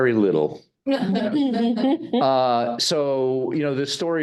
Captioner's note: audience laughing